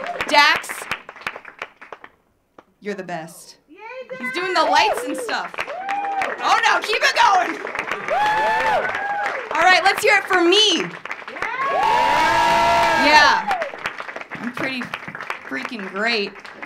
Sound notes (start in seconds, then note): 0.0 audience cheering; 0.0 audience clapping; 5.8 audience cheering; 5.8 audience clapping; 11.0 audience clapping; 11.1 audience cheering